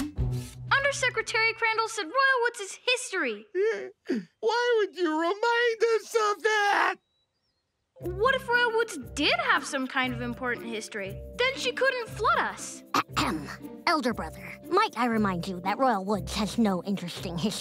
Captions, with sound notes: Undersecretary Crandall said Royal Woods is history. Why would you remind us of that?! What if Royal Woods did have some kind of important history? Then she couldn't flood us. [clearing throat] Elder brother, might I remind you that Royal Woods has no interesting history?